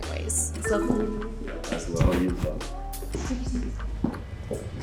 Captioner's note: murmuring